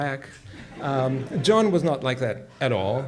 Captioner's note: audience laughs